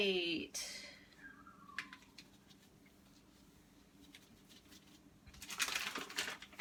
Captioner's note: throws paper into waste basket